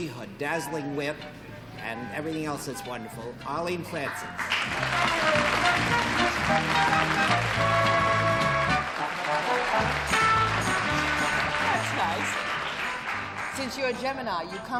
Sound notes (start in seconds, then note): 6.1 applause